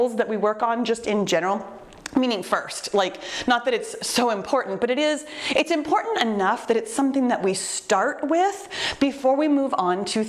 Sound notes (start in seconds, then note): none